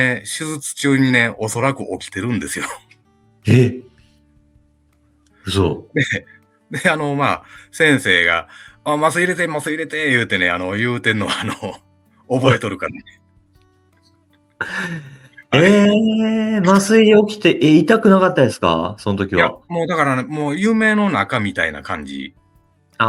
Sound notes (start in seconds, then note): 12.8 laughs